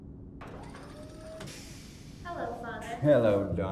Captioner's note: whirring